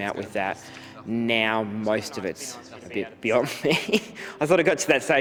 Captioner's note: laughs